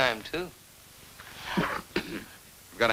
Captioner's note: father clears throat